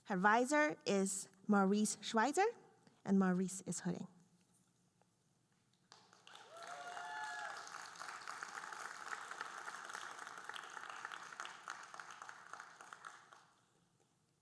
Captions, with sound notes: Her advisor is Maurice Schweitzer, and Maurice is hooding. (audience cheering and applauding)